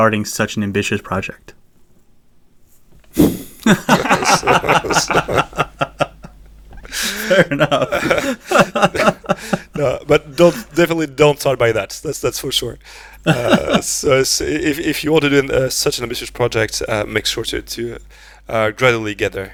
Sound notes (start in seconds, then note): 3.6 laughter; 8.7 laughs